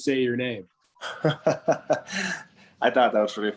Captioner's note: Joonas laughs